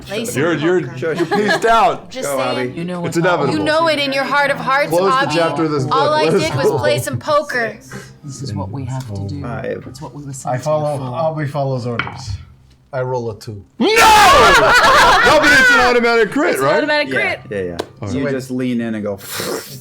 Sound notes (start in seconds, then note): 14.3 laughter